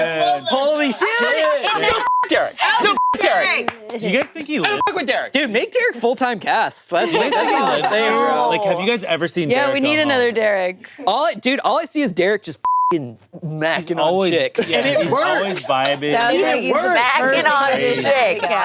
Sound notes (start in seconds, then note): 1.9 beep; 4.7 beep; 12.6 beep